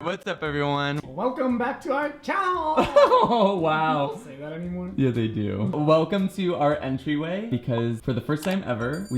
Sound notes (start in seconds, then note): 2.8 giggles